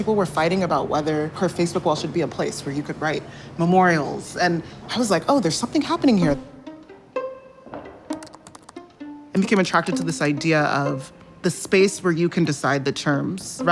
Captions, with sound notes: People were fighting about whether her Facebook wall should be a place where you could write memorials. And I was like, "Oh, there's something happening here." (pensive music) (keyboard keys clicking) I became attracted to this idea of the space where you can decide the terms